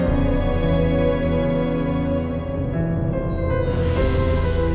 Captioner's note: none